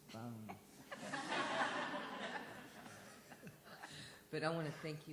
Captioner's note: laughter